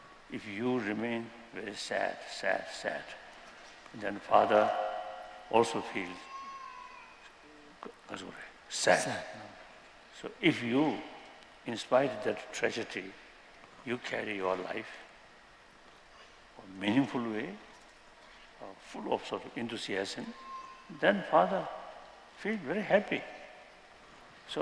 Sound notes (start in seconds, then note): 6.9 non-english